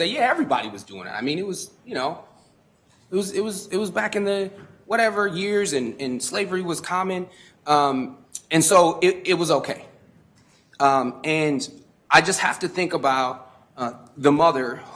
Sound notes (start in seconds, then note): none